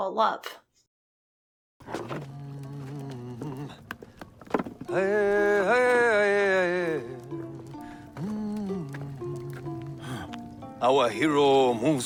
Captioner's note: humming